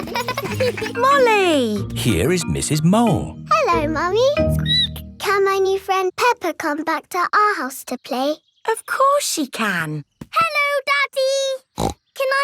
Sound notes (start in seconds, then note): 0.0 laughing; 4.8 squeaks; 11.7 snorts